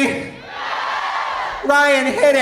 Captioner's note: audience cheering